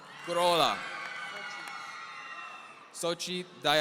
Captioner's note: audience cheering